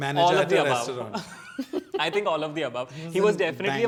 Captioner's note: all laugh